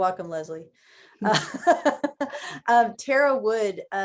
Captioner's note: laughs